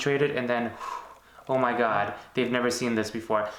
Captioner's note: exhaling